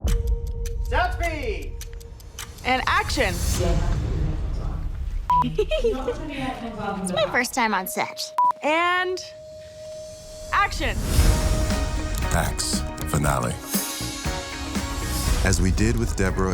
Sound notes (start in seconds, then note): 5.0 camera beeps; 5.4 giggles; 8.3 camera beeps; 10.5 upbeat music plays